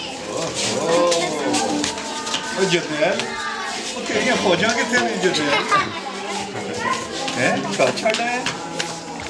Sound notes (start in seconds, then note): 2.2 in Urdu